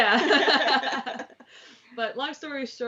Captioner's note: laughs